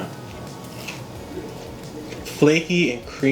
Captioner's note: crunch